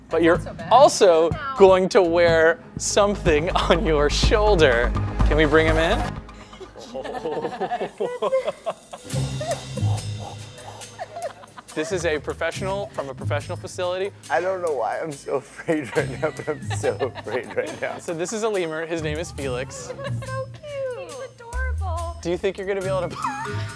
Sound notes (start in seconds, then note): 6.3 laughing; 9.7 static breathing